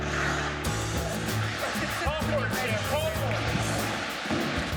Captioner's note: mixed shouting